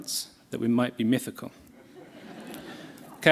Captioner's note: laughter